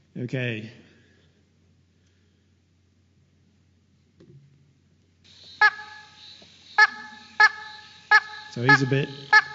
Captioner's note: sound of frog calls